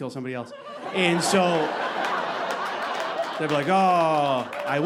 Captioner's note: audience laughing